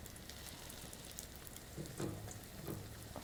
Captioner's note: sizzling sounds